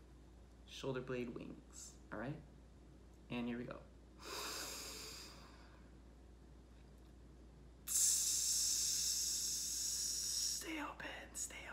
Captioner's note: inhales; hisses